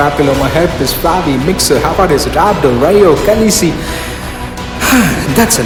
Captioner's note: breathing heavily